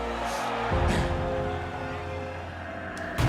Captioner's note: jeering